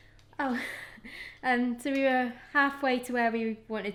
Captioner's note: laughing